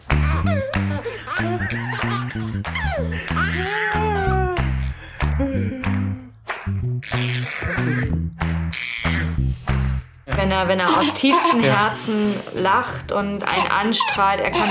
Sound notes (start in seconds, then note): 0.0 funny music; 0.9 both laugh